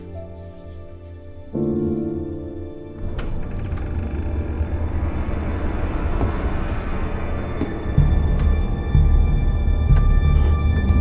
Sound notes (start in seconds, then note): 0.0 soft music; 2.7 door creaks; 7.6 ominous music